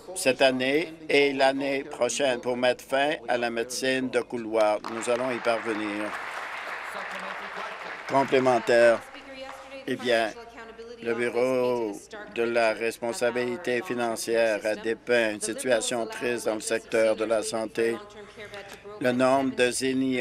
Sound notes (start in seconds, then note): 10.4 applause